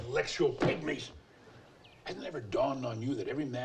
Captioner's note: hands slap